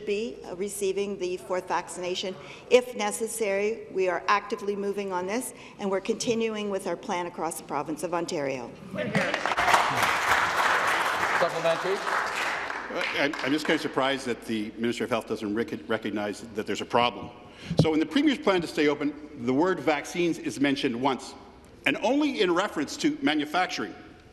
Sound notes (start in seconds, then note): 13.1 applause